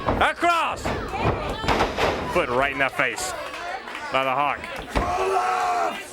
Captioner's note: crowd chatter